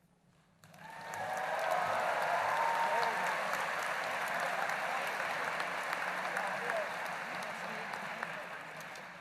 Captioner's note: applause